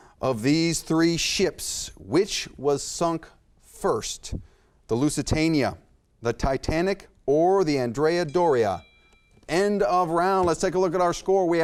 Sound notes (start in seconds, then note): 8.2 bell chimes